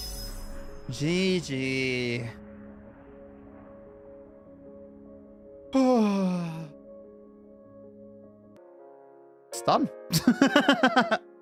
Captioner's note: sigh